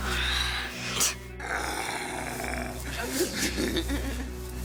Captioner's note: growls